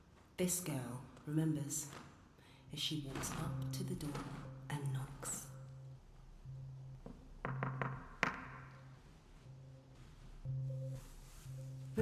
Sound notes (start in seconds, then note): 7.4 knocking; 10.8 fabric ruffles